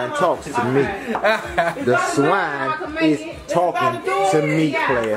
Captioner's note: laughing